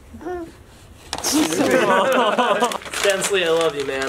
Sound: laughter

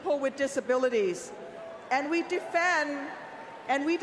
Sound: applause

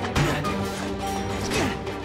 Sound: grunting

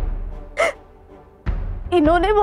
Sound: sobs

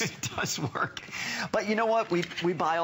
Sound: laughter

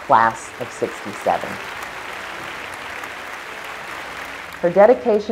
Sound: applause

